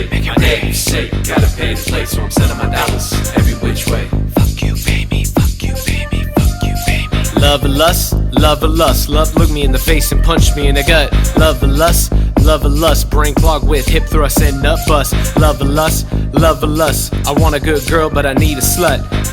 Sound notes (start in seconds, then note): 0.0 rapping; 4.3 whispering; 7.4 rapping